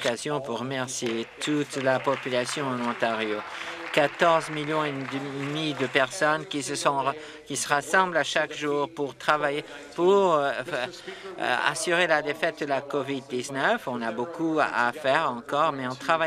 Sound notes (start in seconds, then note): 5.2 applause